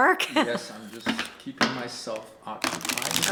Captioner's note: laughs; cards shuffle